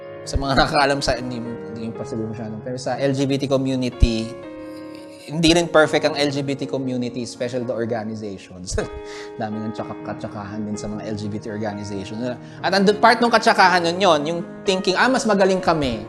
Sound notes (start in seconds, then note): 8.7 chuckles